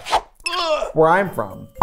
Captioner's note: groaning